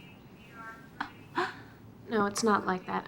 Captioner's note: sobs